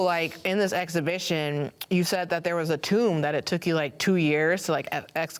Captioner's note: none